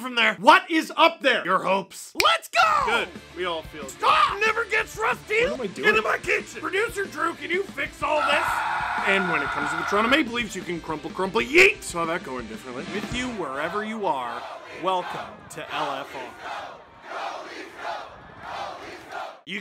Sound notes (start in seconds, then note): 8.1 screaming